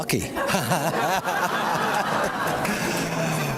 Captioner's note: laughs